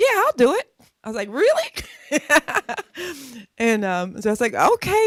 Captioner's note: laughs